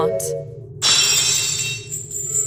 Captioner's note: lock shatters!